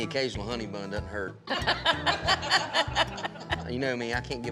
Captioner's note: everyone laughs